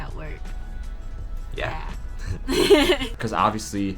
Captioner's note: both Laugh